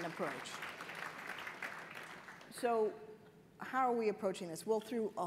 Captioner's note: applause